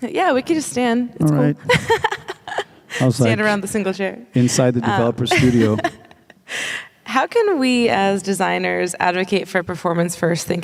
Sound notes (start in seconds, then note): 1.6 laughing; 5.2 laughing